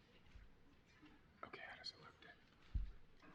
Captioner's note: whispers